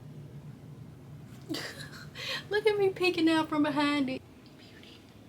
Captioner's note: laughs